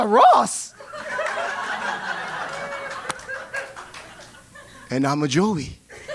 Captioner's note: laugh